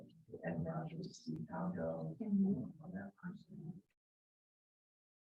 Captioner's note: members chattering